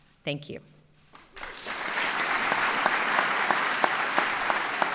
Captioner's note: applause